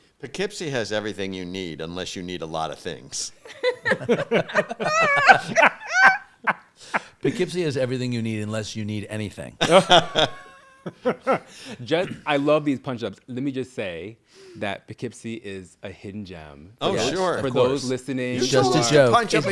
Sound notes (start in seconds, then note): 3.4 all laughing; 9.6 all laughing